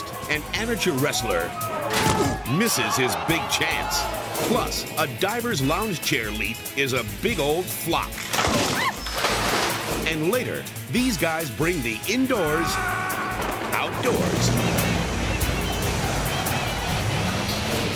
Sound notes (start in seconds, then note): 2.0 wrestler thuds; 8.2 chair cracks; 8.4 swimmer splashes; 8.5 camera person yelps; 9.8 upbeat music continues; 12.5 adventurers scream; 14.1 plane whooshes; 14.4 upbeat music continues